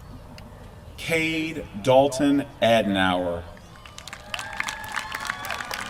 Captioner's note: applause